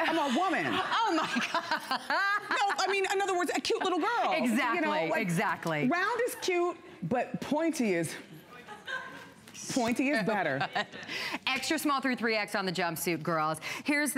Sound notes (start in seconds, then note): 8.5 laughter